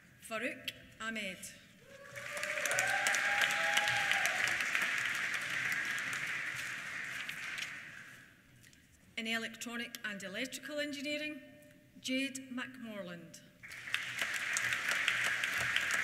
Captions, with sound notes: Farooq Ahmad. (CHEERS) (APPLAUSE) In Electronic and Electrical Engineering, Jade McMorland. (APPLAUSE)